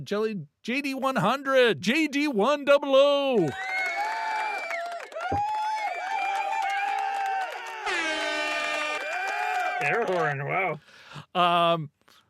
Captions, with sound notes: to Jelly, JD100, JD100. (audience cheering) (horn blaring) Air horn, wow.